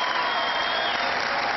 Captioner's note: cheering